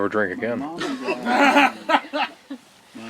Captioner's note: laughter